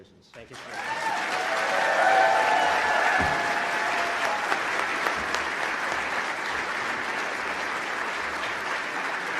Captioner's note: applause